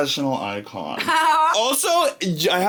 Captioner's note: laughing